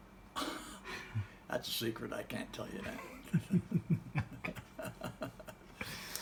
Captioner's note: laughs